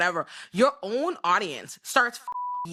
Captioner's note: beep